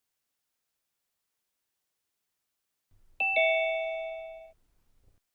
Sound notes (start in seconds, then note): 3.2 ding